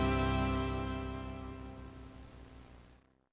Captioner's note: TV Static